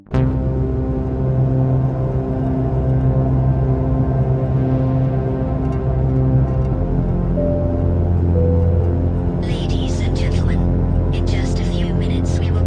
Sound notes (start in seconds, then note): 0.3 ominous synth music; 7.5 PA system chimes